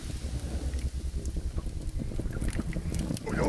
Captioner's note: fire crackling